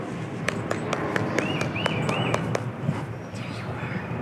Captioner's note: birds tweeting